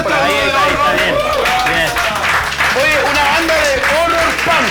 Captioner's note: applause